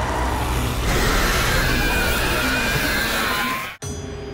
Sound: screeching

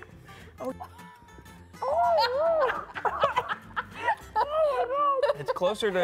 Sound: squealing sounds; laughter

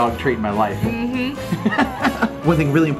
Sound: Rocky laughs

